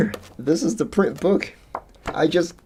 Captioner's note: pages turning